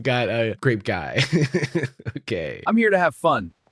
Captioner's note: laughs